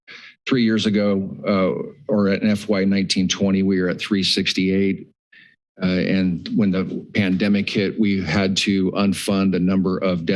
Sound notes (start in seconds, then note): 5.8 pause